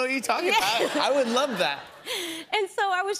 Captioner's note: laughter